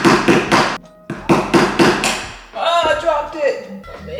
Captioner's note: hammer banging